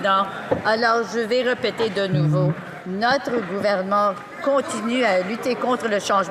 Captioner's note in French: voix de l'interprète